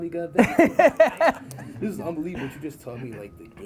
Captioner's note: laughs